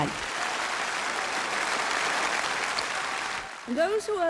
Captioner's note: applause